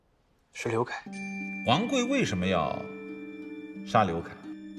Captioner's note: ping